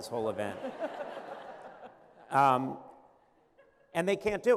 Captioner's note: laughter